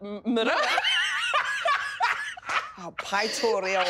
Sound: laughs loudly

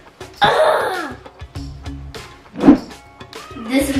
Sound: groaning

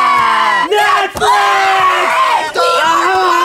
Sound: 𝘴𝘤𝘳𝘦𝘢𝘮𝘴 𝘰𝘧 𝘦𝘹𝘤𝘪𝘵𝘦𝘮𝘦𝘯𝘵

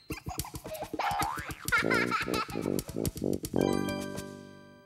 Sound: giggling

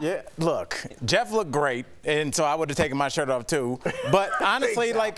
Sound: laughter

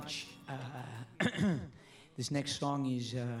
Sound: clears throat

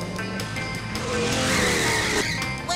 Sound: tires squealing

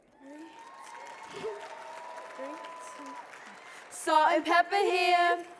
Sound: audience cheering

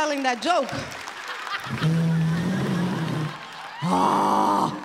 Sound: groaning

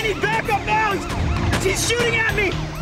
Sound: gunfire

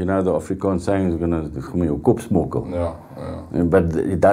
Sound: speaks Afrikaans

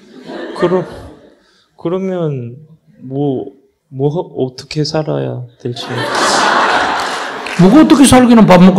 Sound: audience Laughter

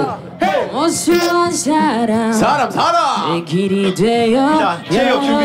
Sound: klak-klik

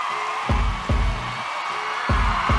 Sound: audience cheering

